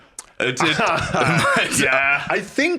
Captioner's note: laughs